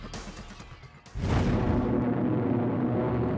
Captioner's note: engines humming